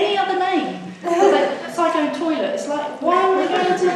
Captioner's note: audience laughs